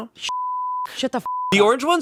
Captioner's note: beeping